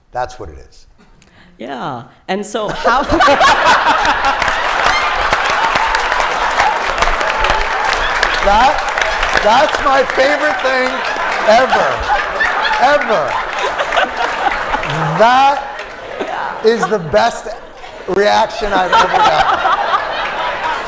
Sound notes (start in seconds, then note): 2.7 laughter; 6.2 applause